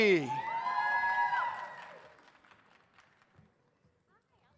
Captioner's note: audience cheers